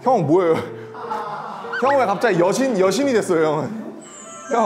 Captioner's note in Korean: ㅋㅋ